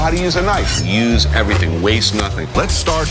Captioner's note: knife whooshing